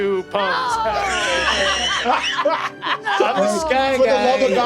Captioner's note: players laughing